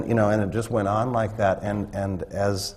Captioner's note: none